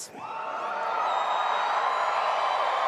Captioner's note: applause